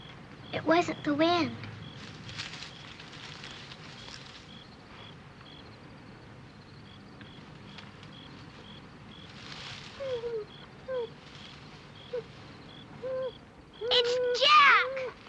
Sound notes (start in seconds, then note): 1.9 rustling; 9.8 dog crying